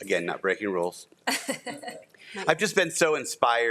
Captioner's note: trustees laughing